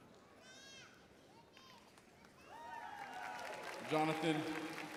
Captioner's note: audience cheering